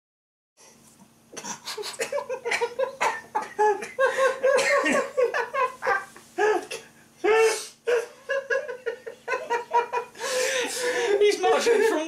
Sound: laughing

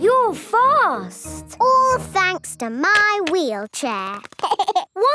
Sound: laughing

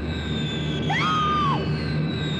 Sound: screams

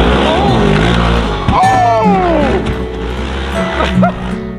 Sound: engine revving; laughs

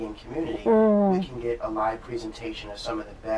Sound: sounds of agreement

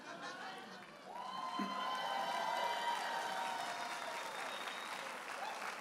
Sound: audience applauding and cheering

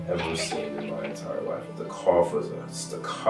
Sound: coughing

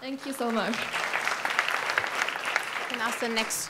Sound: audience applauds

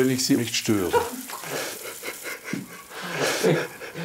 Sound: she laughs, he giggles

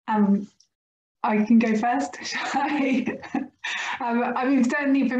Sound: laughs

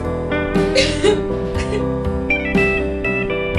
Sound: crying

